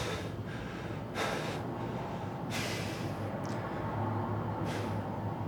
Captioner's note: Ulysses breathing heavily